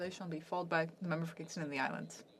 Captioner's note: speaking French